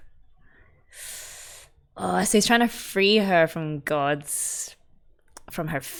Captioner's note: sharp inhale